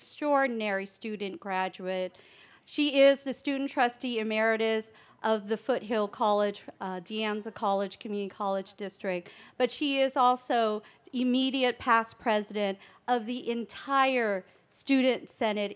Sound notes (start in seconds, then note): none